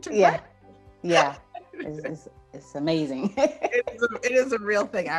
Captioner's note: laughs; laughs